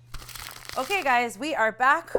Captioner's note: paper crinkles